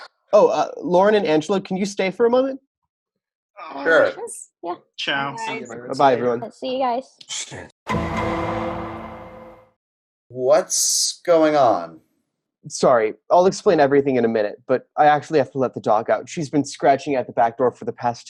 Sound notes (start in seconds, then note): 3.7 scattered goodbyes